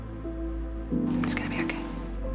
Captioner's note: whispering